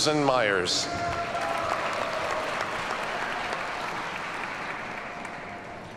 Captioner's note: audience cheers and applauds